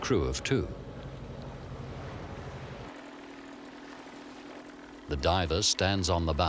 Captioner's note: boat motor humms